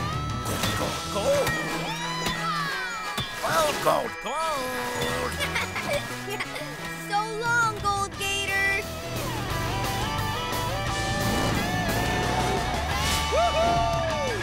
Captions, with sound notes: Yee-haw! Gold, gold, gold! [AJ giggling] So long, gold gator! Woo-hoo!